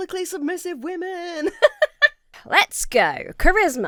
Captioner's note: laughs